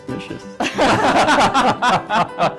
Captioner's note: laughter